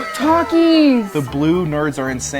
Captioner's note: gasps